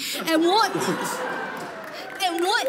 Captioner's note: audience laughing